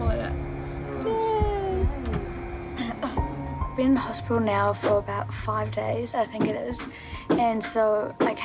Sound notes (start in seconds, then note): 3.3 coughs